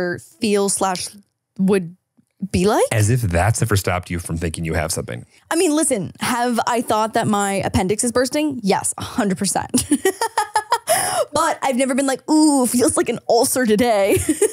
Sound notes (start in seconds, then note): 9.8 laughing